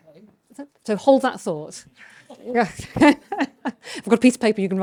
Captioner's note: chuckles